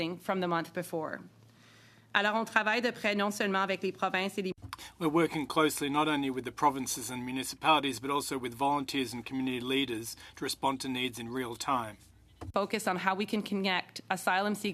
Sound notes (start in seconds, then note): 8.5 speaking French